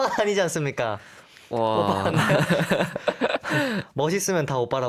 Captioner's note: laughs